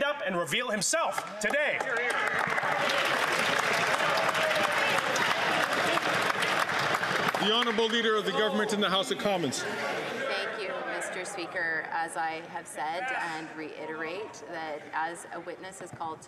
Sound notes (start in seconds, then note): 6.8 some Applause